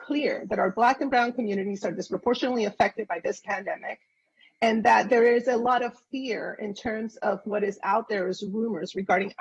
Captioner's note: spanish